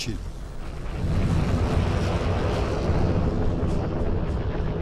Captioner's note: explosions booming